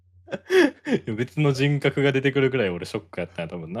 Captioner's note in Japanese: 笑い